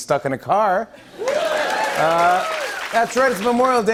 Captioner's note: laughter and applause